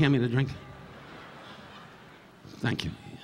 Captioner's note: audience laughing